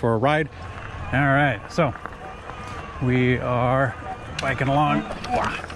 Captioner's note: exclaims